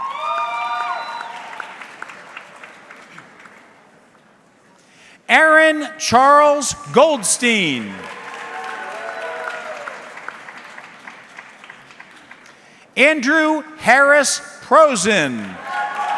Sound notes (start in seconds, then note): 0.0 audience cheering; 7.4 audience clapping